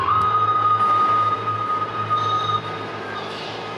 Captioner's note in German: Lok pfeift